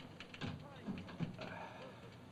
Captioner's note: door closes